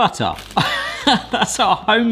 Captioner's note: laughs